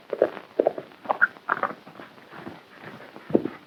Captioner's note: hooves clomping